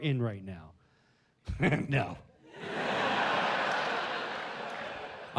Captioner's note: laughs